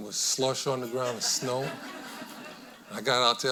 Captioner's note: audience laughing